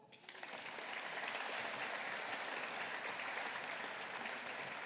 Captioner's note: audience applauding